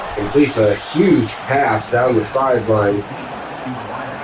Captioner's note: crowd Noises